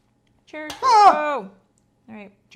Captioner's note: scream